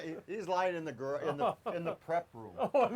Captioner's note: laughs